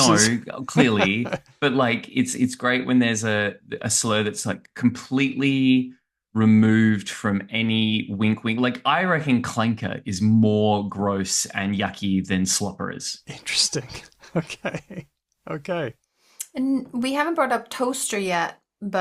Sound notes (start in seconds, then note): 13.4 laughs